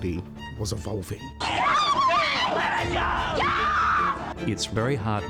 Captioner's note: woman screams